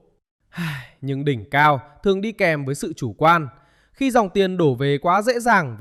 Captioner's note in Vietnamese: thở dài